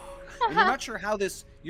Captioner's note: Violette chuckles